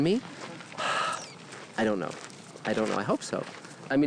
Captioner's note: sighing